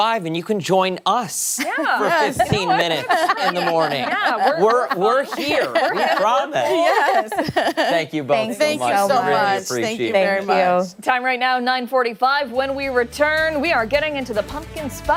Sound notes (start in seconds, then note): 8.2 laughter